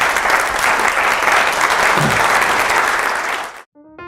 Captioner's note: applause